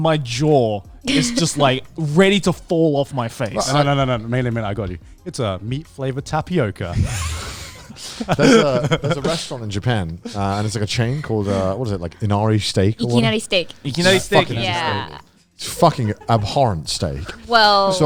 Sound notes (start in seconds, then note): 6.9 laughing